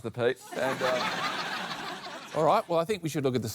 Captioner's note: laughter